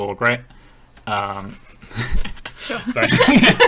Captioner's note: laughing